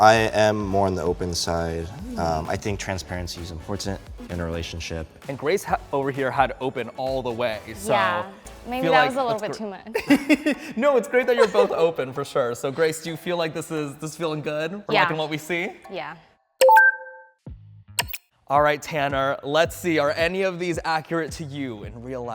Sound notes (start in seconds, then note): 18.0 electronic clicking